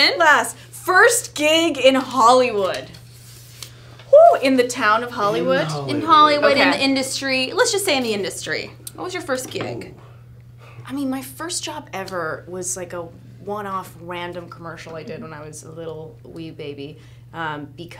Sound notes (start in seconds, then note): 4.3 cheers